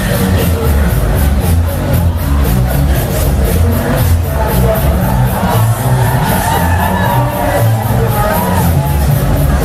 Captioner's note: clap